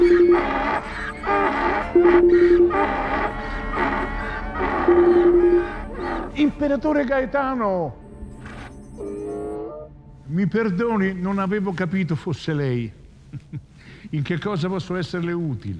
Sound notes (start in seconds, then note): 0.0 phone ringing; 4.6 phine ringing; 8.9 Donkey's bray